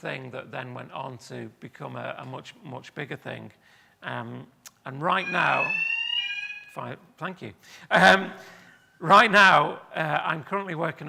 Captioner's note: alarm sounds